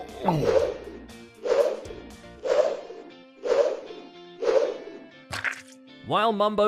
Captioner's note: whooshing noise while mustache is in the air. Then, SPLAT